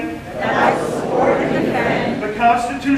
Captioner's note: crowd